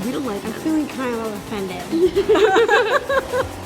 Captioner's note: laughs